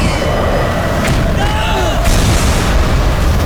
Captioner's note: grunting